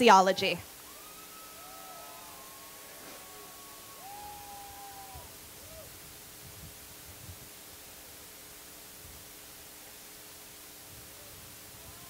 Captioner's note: cheering